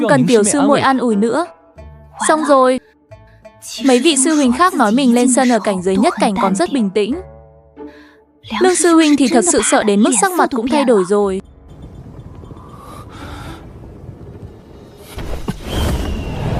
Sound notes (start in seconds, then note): 12.6 gasping